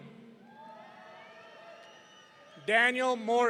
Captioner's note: audience cheering